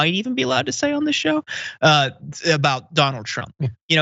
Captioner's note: laugh